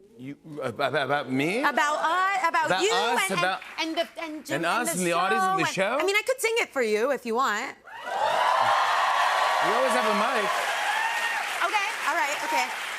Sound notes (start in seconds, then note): 7.9 cheers and applause